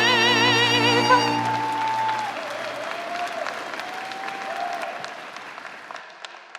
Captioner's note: applause